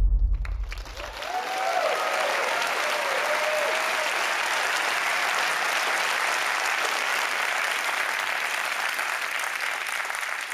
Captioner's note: applause